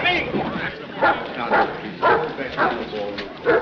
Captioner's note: dog barks